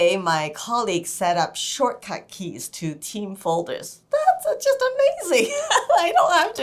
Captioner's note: laughter